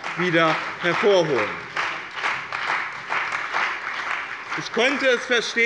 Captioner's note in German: Beifall bei dem BÜNDNIS 90/DIE GRÜNEN und der CDU